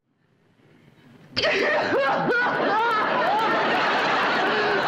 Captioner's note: crying